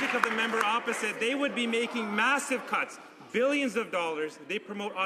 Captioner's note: some Applause